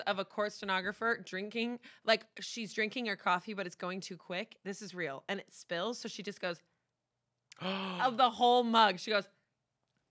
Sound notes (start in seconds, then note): 7.5 gasps